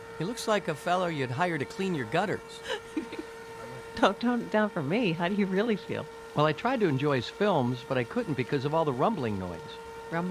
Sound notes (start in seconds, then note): 2.6 Louise laughing